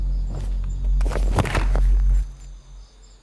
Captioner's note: body thuds